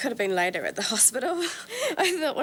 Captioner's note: laughs